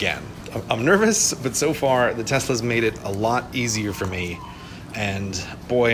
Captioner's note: shakey voice